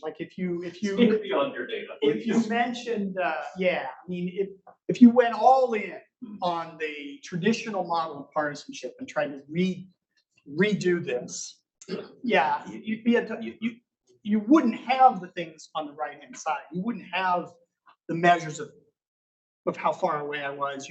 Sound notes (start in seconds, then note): 0.8 chuckles